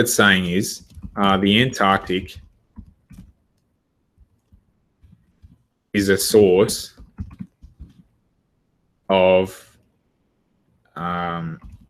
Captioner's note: typing